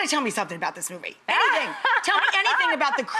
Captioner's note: Morena laughs